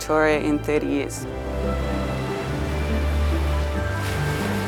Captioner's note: waves crashing